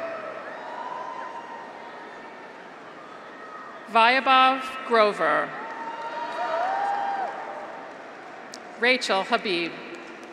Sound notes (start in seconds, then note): 0.0 graduates cheer; 5.6 graduates cheer; 5.7 audience applauds